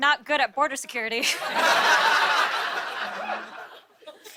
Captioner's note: laughter